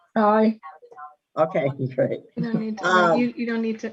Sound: laughs

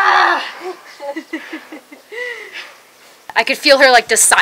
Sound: woman laughing

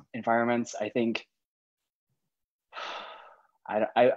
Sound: sighs

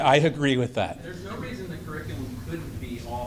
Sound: voiceover

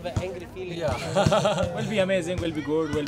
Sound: laughs

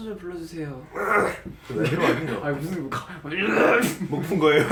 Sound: clears his throat

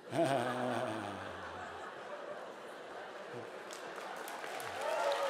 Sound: laughter

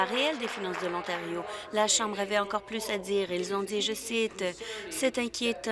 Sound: applause

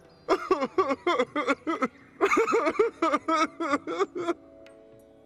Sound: crying

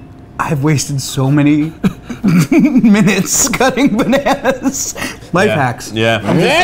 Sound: laughs

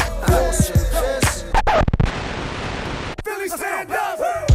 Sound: record scratching

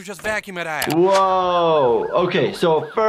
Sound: siren wailing

